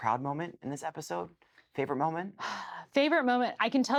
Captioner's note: sighs